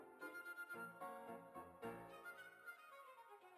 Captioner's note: none